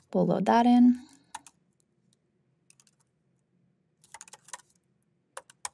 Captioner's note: keyboard clacking